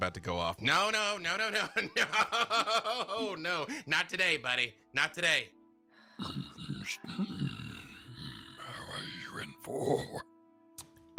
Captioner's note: mumbles in mindflayer language